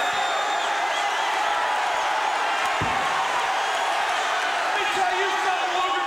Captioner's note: crowd cheering